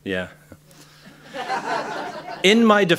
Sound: laughter

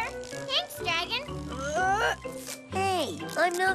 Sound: grunts with effort

